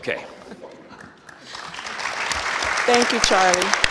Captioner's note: audience applause